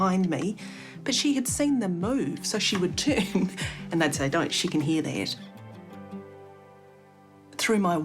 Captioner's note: chuckles